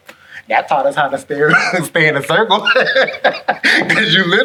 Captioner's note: laughs